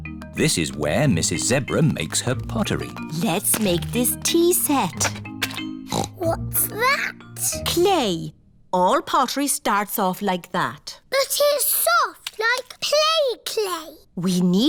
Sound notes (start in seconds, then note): 5.8 snorts